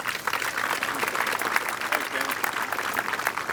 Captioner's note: applause